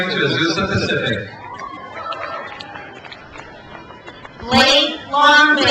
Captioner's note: crowd cheers